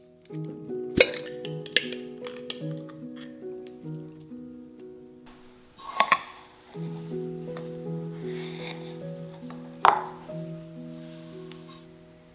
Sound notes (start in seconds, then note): 0.9 jar lid pops; 5.8 corn grits rustle against the measuring cup